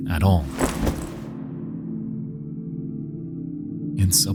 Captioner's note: bullet rustles